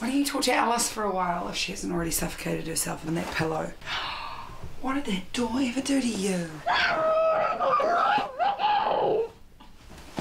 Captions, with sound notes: Why don't you torture Alice for a while, if she hasn't already suffocated herself in that pillow *mock gasp* What did that door ever do to you? *Muffled by pillow* Stop ruining my life, Vicky!